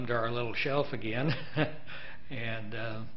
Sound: laughing

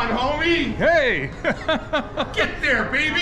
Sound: laughs

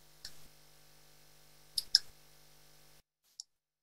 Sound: mouse clicking

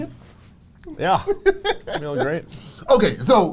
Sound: laughs

